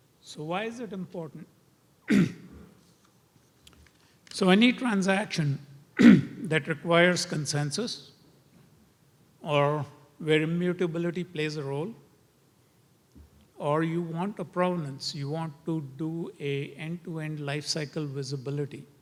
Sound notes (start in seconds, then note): 2.0 cough